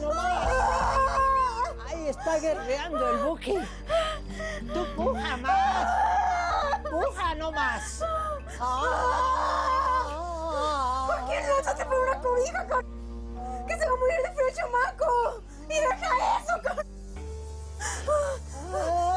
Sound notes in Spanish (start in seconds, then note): 0.1 Gritos de Elvira; 8.6 Gritos y jadeos más fuertes; 9.0 Comienza a vocalizar de nuevo; 18.9 Jadeos y gritos